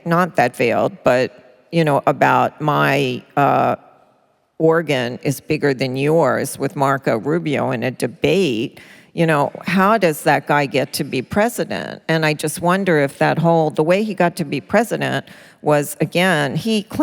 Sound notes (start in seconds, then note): none